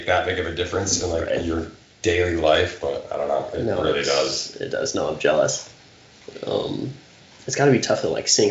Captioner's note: none